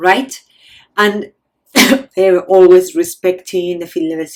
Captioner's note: coughs